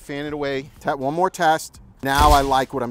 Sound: shutter snaps

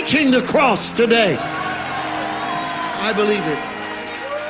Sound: congregation cheering

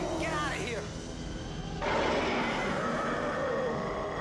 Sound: roars

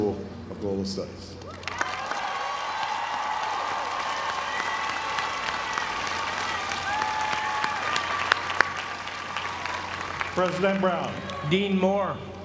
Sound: applause

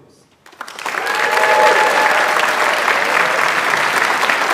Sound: audience applauds

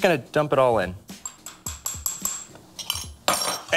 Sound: tapping glass

